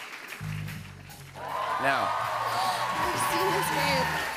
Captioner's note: gasps